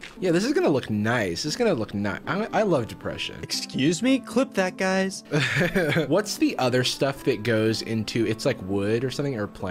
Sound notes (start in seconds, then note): 5.3 giggling